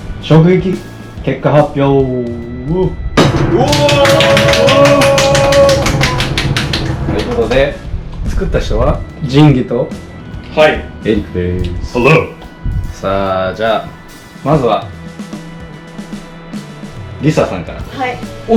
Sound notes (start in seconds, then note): 3.2 clapping and cheering